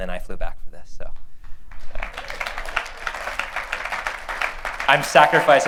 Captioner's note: applause